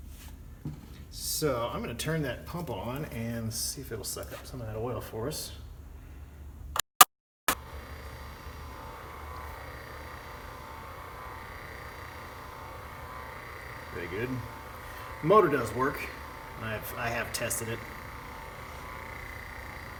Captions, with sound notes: so, i'm going to turn that pump on and see if it'll suck up some of that oil for us. [switch clicks, motor whirrs] very good. the motor does work; i have tested it...